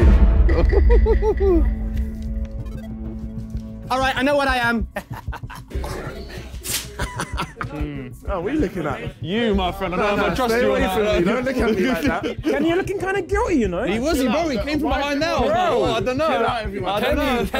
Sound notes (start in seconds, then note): 1.4 laughing; 4.8 laughing sinisterly; 4.8 laughs sinisterly